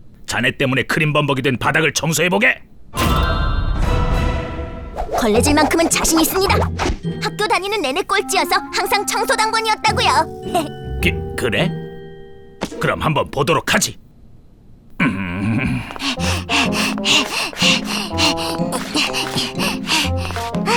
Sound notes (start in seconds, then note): 15.0 Wilk grunting